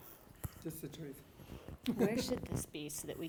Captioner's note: laughs